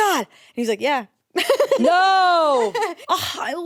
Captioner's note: laughs